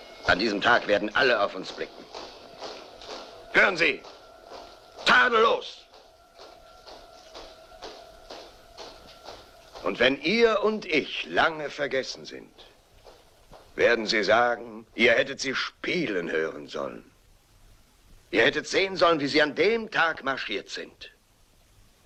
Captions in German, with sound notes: - [bagpipes fade] - All the people will be watching. - [marching fades] - Do you hear? Perfect. And when you and I are long forgot, they'll say, "You should have heard them playing. You should have seen them marching then."